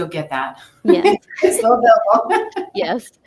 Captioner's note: laughs